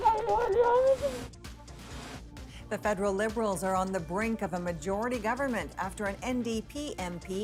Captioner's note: crying